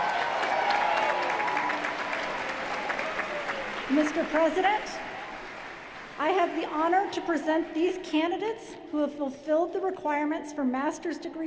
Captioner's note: cheers & applause